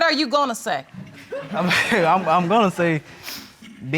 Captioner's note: audience chuckles; chuckling